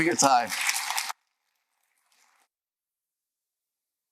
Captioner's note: applause